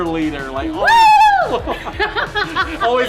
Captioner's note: laughter